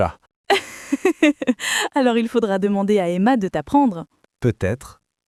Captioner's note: laughs